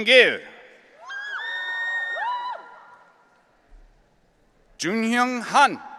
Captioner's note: audience cheering